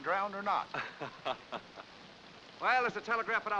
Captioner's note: Owen chuckles